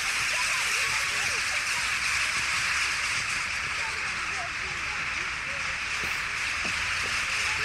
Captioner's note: jackdaws